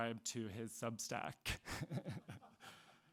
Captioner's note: person laughing